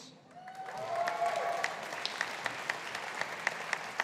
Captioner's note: audience applauding